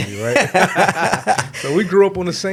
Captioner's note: laughing